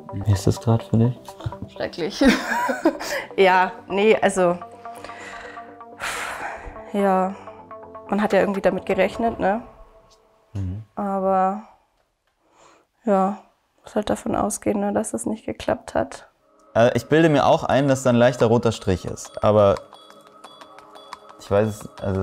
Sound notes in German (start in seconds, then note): 5.1 Unruhige Musik; 5.9 seufzt